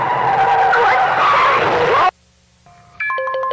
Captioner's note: tires screech; distorted yells; eerie chime music